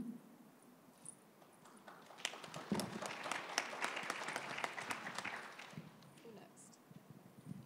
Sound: applause

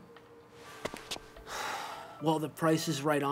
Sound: sighing

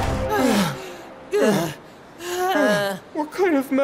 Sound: guys panting

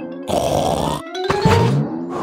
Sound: snorts

